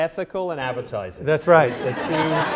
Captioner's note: laughter